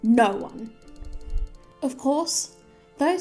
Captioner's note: clock ticking